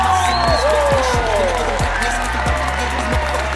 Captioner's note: crowd is going wild